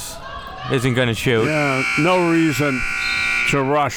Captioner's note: buzzer sounding